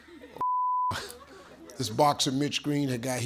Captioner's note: beep